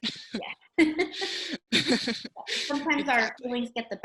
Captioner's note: giggling lightly